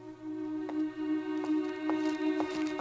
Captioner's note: footstep